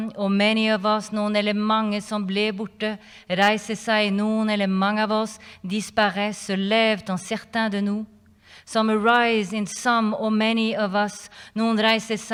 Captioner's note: non-english speech